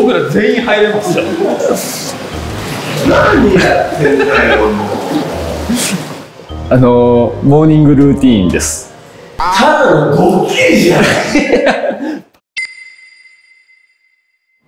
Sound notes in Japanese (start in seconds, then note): 10.9 笑い声; 12.6 ピックアップ 効果音